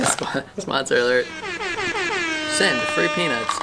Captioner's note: horn sounds